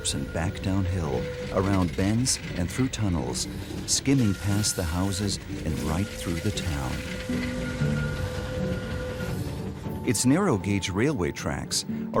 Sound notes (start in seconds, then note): 7.0 soft music; 7.0 train engine revving